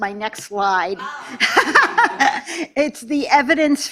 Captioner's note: laughter